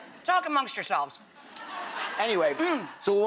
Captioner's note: audience laughing